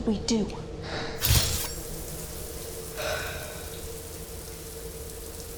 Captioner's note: water splattering